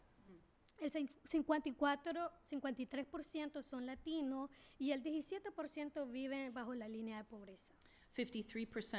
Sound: speaking spanish

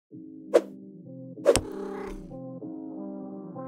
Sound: cat purrs

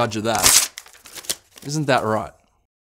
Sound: paper ripping

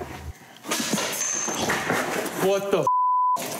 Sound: glass dropping

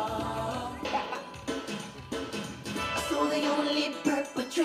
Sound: man laughs

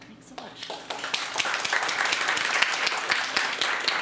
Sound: audience applause

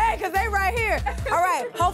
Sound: laughs

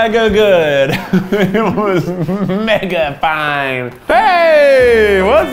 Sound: laughs

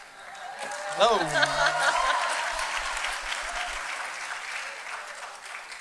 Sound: applause

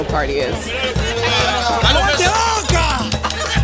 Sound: fans cheering in Spanish

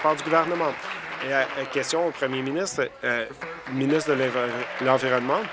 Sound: applause

